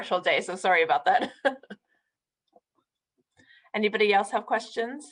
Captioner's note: laughing